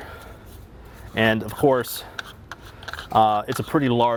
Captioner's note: lid unscrewing